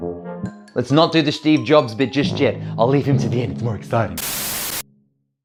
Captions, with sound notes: Let's not do the Steve Jobs bit just yet. I'll leave him to the end, it's more exciting. (static)